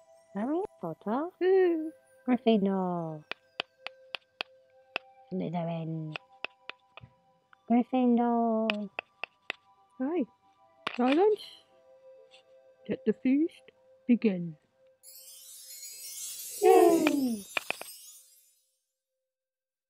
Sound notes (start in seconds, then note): 14.0 magic swooshes and students all cheer